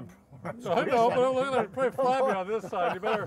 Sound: men laughing

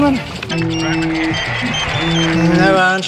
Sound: phone rings repeatedly

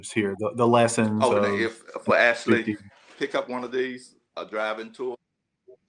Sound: chuckle

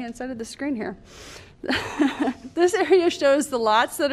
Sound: laughter

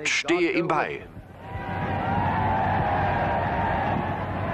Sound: crowd cheering

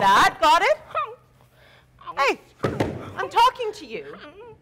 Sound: Sharik softly whimpering

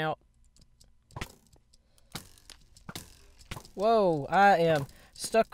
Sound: arrows flying

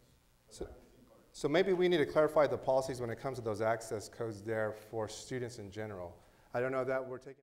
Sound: instructor explaining in background

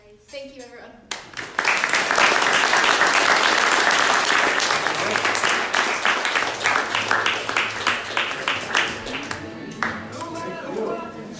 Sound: applause

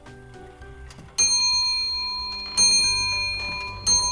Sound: clock chiming

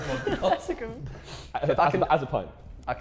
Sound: Sidemen laughing

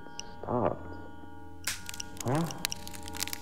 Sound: A loud crack echos through the room; the wood continues to creak

